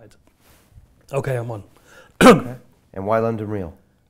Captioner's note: coughs